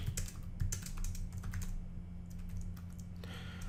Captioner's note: typing